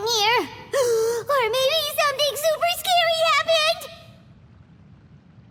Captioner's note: gasp